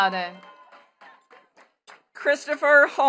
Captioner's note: attendees clapping